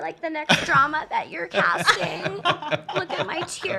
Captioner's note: laughs